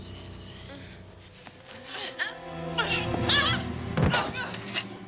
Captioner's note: grunting and panting